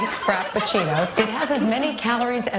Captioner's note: laughter